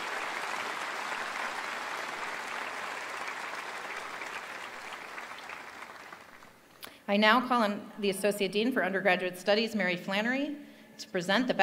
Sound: applause

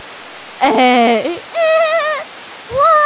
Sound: laughing

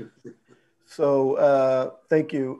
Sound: chuckles

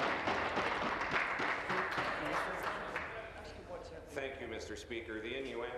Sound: applause

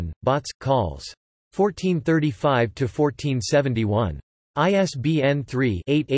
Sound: in German

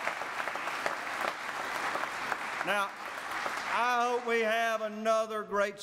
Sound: applause

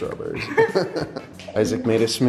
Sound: chuckles

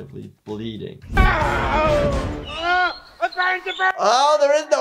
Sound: Frank screaming; slide squeaking

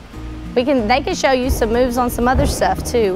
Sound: footsteps thudding

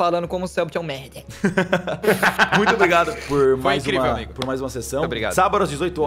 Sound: laughs

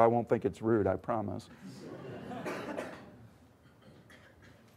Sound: laughter

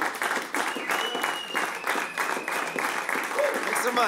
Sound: applause

